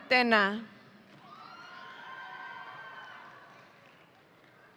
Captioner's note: audience cheering